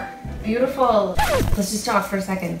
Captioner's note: record scratches